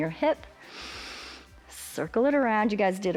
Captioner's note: inhales